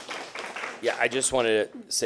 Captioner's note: applause